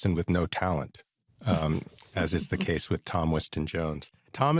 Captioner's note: chuckles